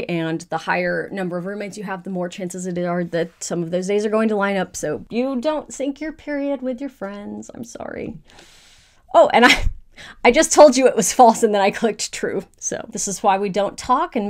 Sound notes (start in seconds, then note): 9.6 laughs